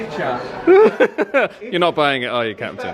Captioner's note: laughs